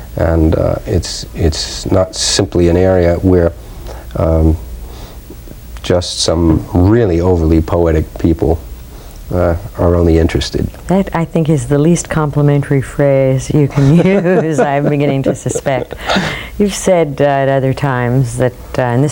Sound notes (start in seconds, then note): 13.7 laughs